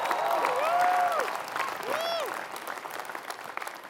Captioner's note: applause